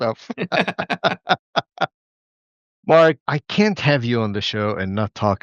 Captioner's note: laughter